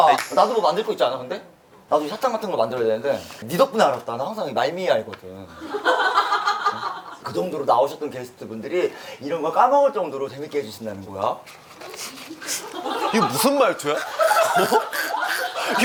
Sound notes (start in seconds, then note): 5.6 laughing